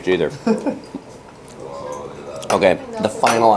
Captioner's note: laughs